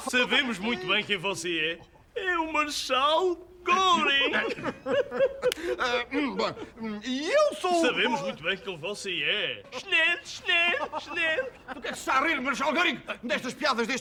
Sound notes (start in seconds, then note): 4.3 Chuckles, Von Block clears throat; 9.6 chuckles